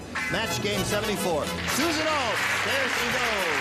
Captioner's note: applause